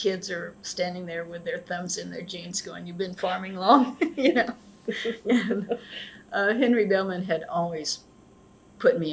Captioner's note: laughter